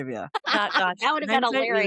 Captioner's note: laughter